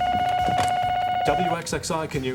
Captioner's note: telephone ringing